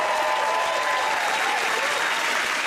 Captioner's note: cheers and applause